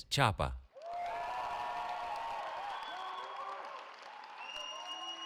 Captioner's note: cheering